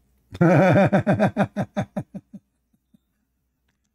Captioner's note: Ketawa